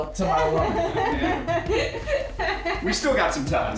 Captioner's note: laughing